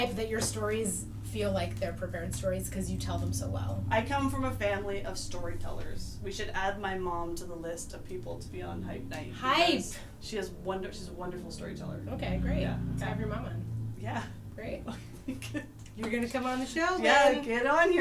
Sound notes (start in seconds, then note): 14.8 laughts